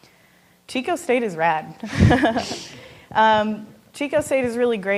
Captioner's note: laughing